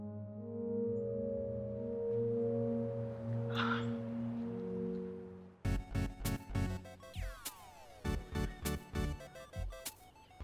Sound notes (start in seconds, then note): 3.5 Colleen sighs; 4.2 gentle music; 5.6 upbeat music; 7.7 video games whirring